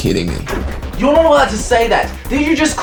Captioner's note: door rattles, tense music, jumps in seat; door opens, shouting